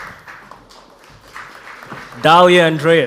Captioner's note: audience applauds